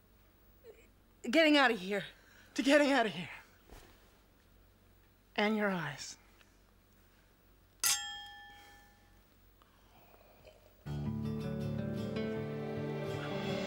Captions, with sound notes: - Getting out of here. - To getting out of here. And your eyes. (glasses clinking) (sweet music)